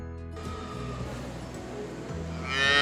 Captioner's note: upbeat music; machines whirring; cow mooing